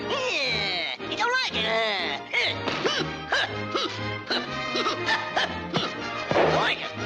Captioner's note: grunting; hat thuds